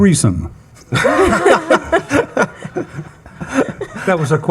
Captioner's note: attendees laughing